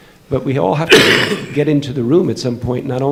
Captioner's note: coughing